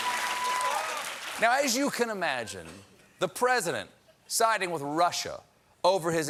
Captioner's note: applause